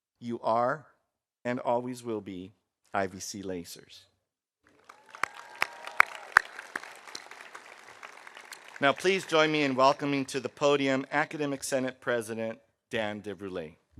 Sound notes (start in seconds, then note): 4.7 audience applauding; 4.8 audience cheering